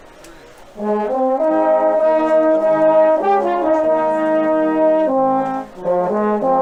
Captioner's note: people chattering; gentle music